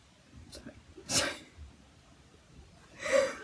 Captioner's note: laughs